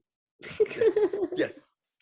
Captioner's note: laughing